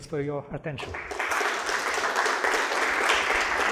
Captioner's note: applause